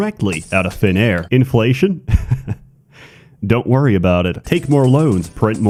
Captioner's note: laughing